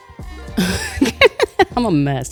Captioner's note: laughs